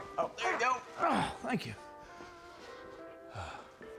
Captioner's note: groaning